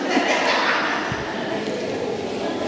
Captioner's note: laughs